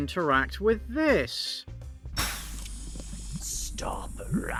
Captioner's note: toilet explodes